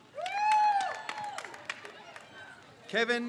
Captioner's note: crowd cheers